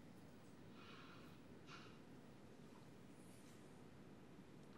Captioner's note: breathes deeply